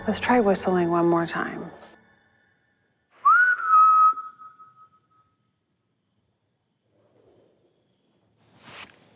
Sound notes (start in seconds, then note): 3.1 whistles